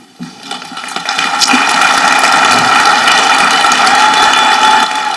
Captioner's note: audience clapping